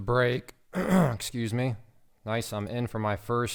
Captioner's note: clears throat